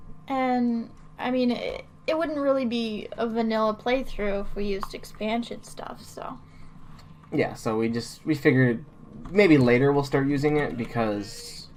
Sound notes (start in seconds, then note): none